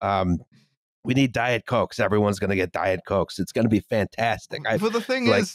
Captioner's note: Trump voice